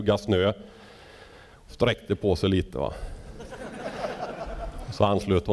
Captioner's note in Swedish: skratt